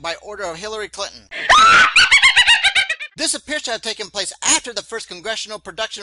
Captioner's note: sound of Witches Laughter